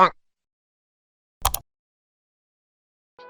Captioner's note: mouse clicks